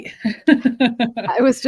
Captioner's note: laughs